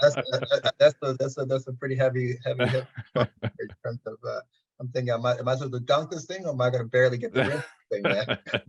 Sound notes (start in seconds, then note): 0.0 chuckling; 2.6 audio distortion; 7.4 audio distortion